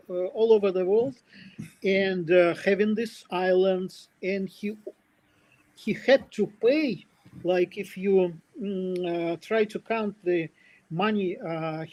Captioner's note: прочиства гърло